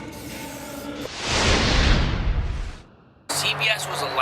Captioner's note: spray can hissing; intense whooshing